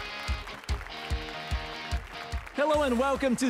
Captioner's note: applause and cheers